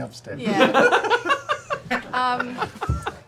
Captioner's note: laughter